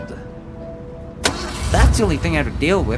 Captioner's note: engine starts